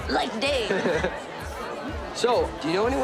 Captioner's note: laughs